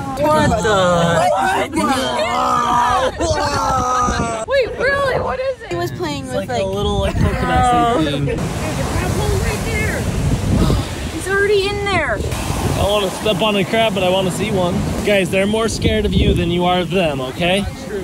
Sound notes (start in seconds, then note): 1.5 everyone talking